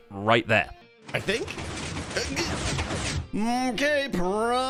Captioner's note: pistons firing